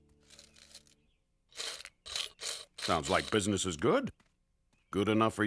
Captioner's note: coins jangling